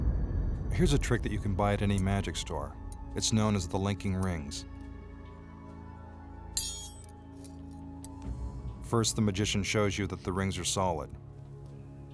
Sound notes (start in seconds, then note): 0.0 dramatic music; 6.4 rings clink